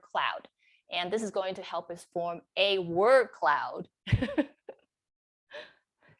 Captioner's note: chuckles